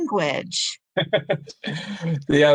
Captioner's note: chuckles